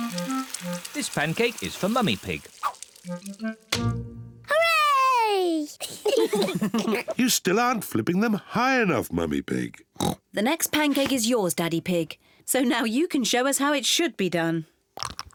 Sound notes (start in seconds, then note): 5.7 kids and mummy pig laugh; 9.9 oinks